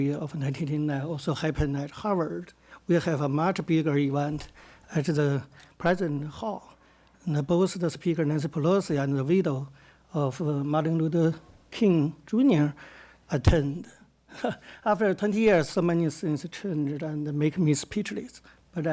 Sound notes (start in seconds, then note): 14.1 laughs